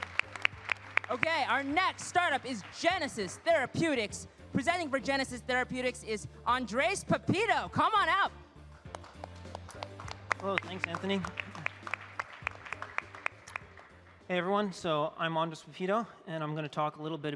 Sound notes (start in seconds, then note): 4.1 applause